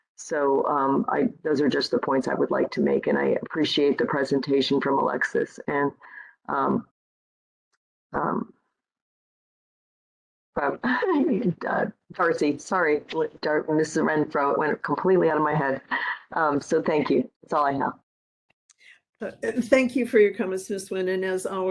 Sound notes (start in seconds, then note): 10.0 laughing